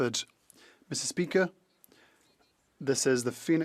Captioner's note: speaking French